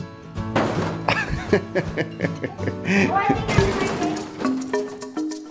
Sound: laughing

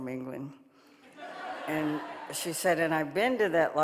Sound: audience laughing

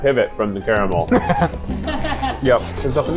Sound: laughing

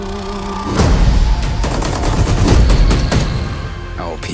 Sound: singing; rhythmic gunshots

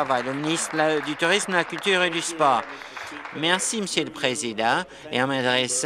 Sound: applause

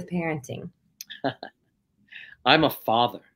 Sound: chuckles

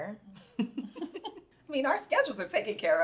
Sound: Ayanna and Nia laughing

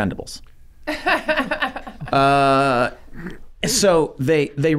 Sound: laughs

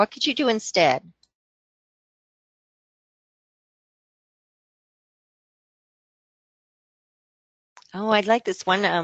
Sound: silence

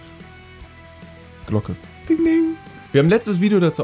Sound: ring, ring

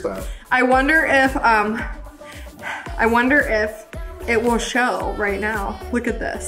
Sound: sighing

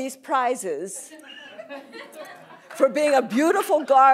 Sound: laughter

